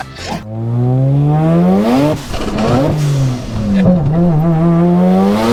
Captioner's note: loud car noises